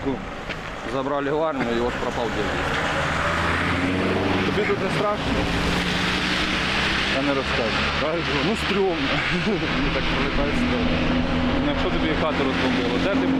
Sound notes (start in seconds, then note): 9.0 laughing